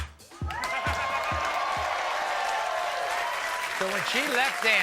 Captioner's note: audience cheering and applauding